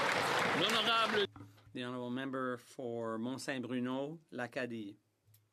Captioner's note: some Applause